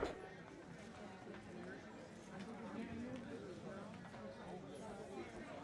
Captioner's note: people chattering